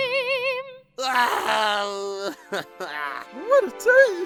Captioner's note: nickel cries